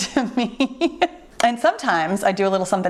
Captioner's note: laughing